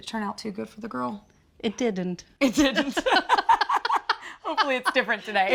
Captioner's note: laughing